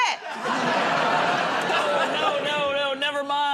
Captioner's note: laughter